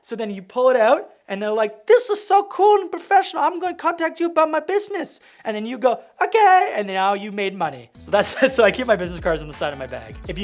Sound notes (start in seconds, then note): 8.2 laughing